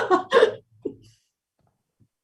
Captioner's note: chuckles